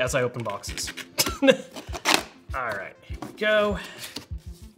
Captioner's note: laughs